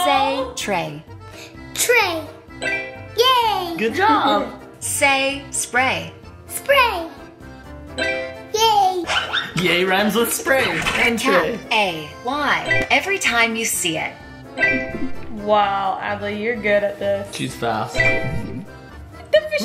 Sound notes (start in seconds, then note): 14.6 beeping sound; 18.0 phone beeping